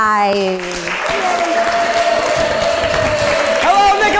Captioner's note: audience cheering